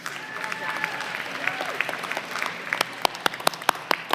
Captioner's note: applause